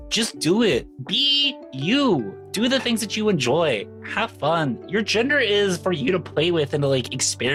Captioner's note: none